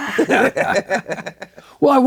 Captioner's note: laughing